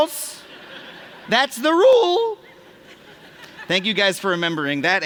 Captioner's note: laughter